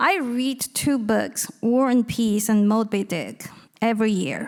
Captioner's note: none